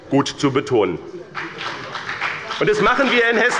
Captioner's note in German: Beifall bei dem BÜNDNIS 90/DIE GRÜNEN und der CDU